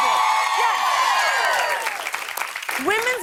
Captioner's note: cheers and applause